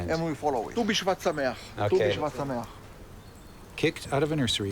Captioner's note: speaks Hebrew